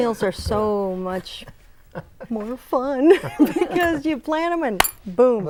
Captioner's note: laughing